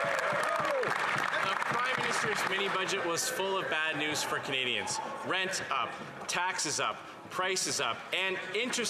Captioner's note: some Applause